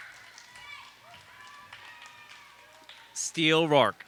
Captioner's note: audience applauds